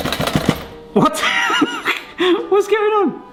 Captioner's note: laughs